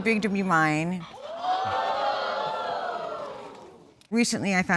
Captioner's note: audience exclaiming